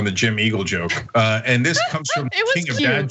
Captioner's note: laugh